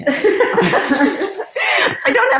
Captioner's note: laughing